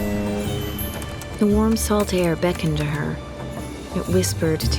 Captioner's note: boat horn; typing